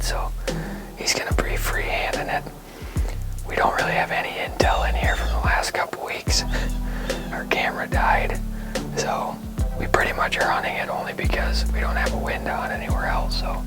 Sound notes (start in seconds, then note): 6.9 laughs